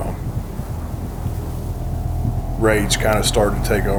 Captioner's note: wind rustling